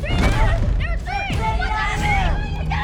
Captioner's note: indistinct screaming